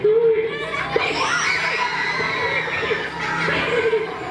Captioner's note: screaming, laughing